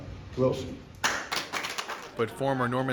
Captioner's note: applause